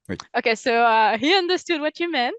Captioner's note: translating from French